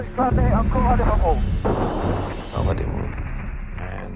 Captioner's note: man speaking in foreign language